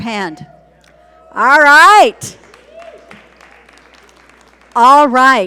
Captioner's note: audience cheer and applaud